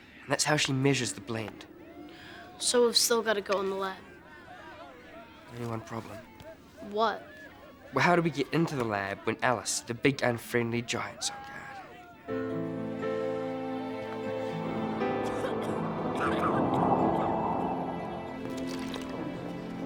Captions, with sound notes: And that's how she measures the blend. - So we've still gotta go in the lab. - Only one problem. - What? - Well how do we get into the lab when Alice, the big and friendly giant's on guard? (gentle music) (people coughing)